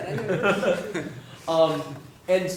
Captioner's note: laugh